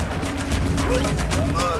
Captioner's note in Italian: Applauso